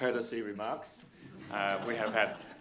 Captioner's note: audience laughing